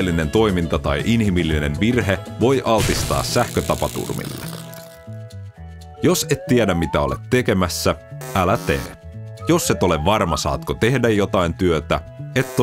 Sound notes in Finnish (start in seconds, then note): 2.8 sähköiskun särinää